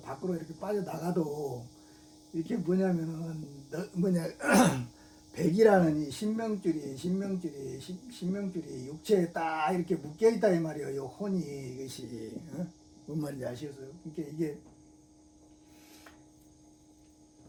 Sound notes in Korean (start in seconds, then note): 4.4 목을 가다듬음